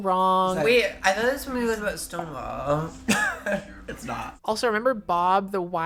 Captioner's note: chuckles